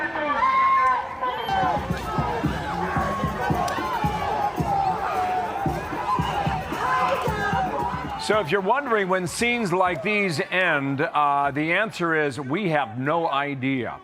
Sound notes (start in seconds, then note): 1.0 shouting